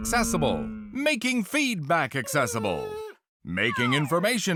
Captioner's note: dog whine